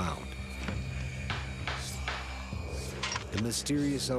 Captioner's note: banging